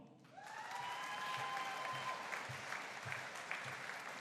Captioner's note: audience cheering